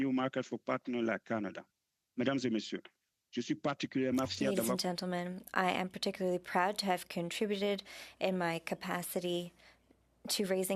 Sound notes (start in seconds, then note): 6.5 speaking French